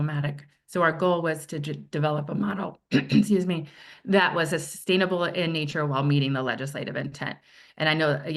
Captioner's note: clears throat